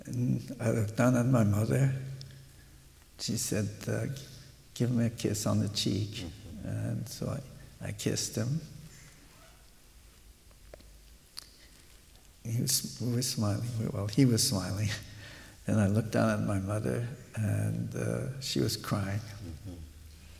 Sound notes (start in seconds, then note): 9.2 A pause